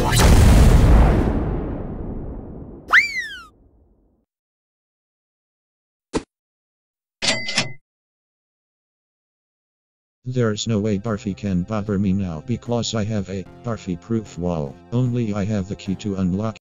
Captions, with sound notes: *explosion* *silly whistle sound* *cha-ching* There's no way Barfy can bother me now, because I have a Barfy-Proof Wall. Only I have the key to unlock-